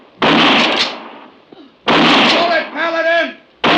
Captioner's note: gunshots